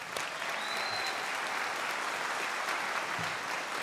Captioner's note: crowd applauding